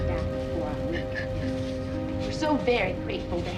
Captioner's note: crying